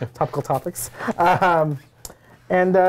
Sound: both laugh

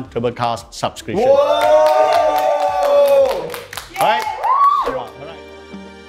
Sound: cheers

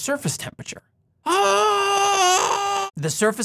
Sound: screaming from burning pain

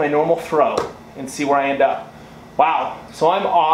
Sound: thuds

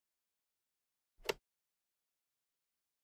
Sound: sound of click

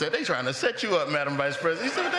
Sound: laughter

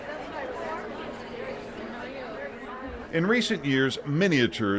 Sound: people chatter

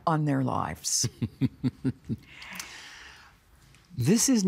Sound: chuckling

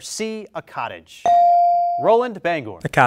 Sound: bell rings

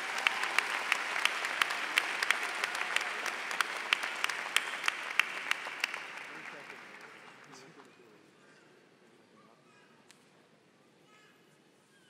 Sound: applause

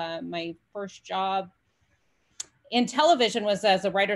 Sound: none

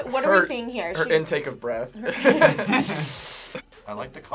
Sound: both laugh

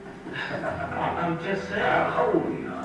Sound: voiceover; chuckles; voiceover

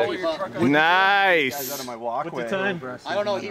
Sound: chatter

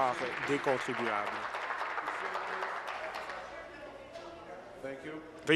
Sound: applause

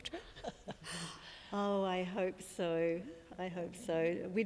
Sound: laughs

